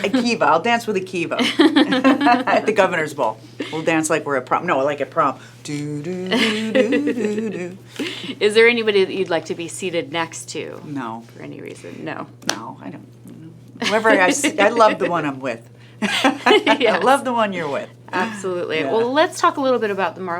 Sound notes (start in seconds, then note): 5.8 hums slow song; 16.1 laughing